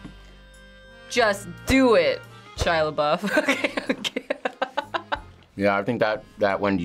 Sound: laughs

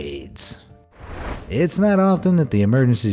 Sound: air whooshing

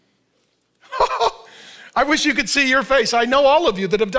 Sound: laughs

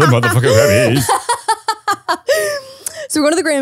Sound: laughing

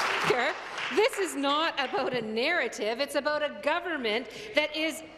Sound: applause

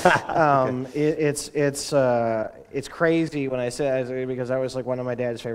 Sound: chuckle

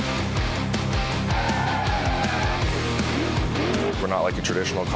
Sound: crowd cheering

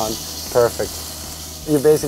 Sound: sizzling

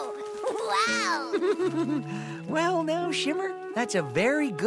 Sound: giggles

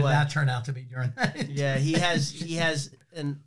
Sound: laughs

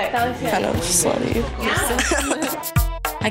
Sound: laughing

